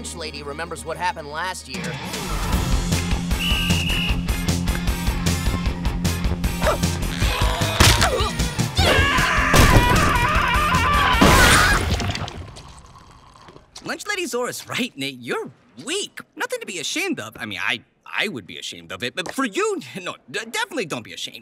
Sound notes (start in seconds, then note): 3.2 whistling; 6.9 straining; 8.7 screaming